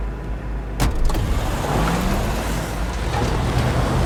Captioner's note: engine revs